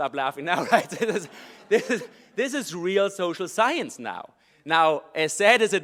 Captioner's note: laugh